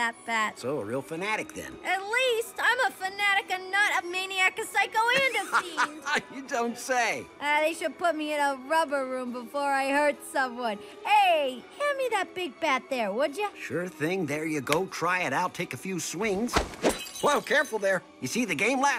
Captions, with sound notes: - So a real fanatic then? - At least! I'm a fanatic, a nut, a maniac, a psycho, and a fiend. - [laughs] You don't say? - Ah, they should put me in a rubber room before I hurt someone. Hey, hand me that big bat there, would ya? - Sure thing. There you go. Try it out. Take a few swings. [bat swings] [glass shatters] - Whoa, careful there. You see the game last night?